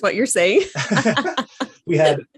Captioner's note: both laugh